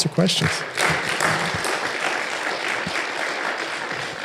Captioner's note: audience applauds